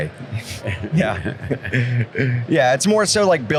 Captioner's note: both chuckle